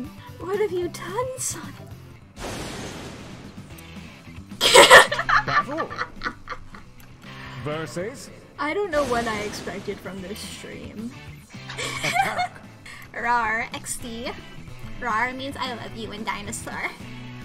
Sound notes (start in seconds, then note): 0.0 through laughter; 4.6 laughs; 11.6 giggles